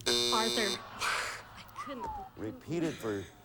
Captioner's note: buzzer sounds